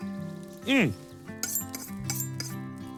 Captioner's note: knife sharpening